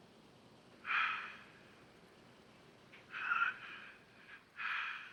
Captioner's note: breathing on recording